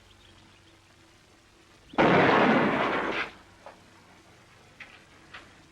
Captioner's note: gunshot